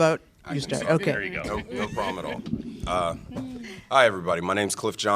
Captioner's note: laughter